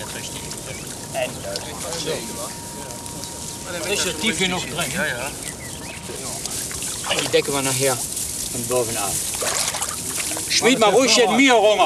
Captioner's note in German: Arbeitsgeräusche und -gespräch